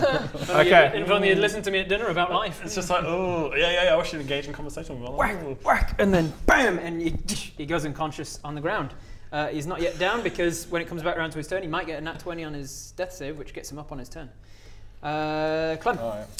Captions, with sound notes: Okay if only you'd listened to me at dinner about life It's just like eww yeah yeah yeah I wish you'd engaged in conversation with me Whack! Whack! And then bam!! and you *tssh* he goes unconscious on the ground uh he's not yet down because when it comes back round to his turn he might get a nat 20 on his death save which gets him up on his turn Clem